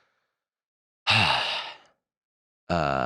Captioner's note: sighs